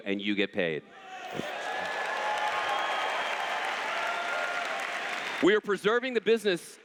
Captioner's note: cheers